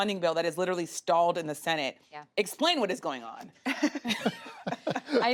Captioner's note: laughter